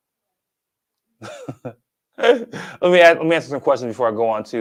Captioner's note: laughs